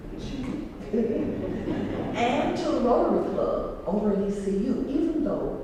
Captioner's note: laugh